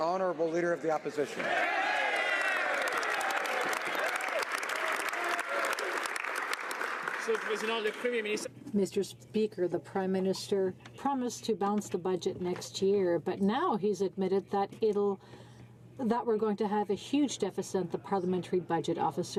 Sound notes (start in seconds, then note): 5.2 some Applause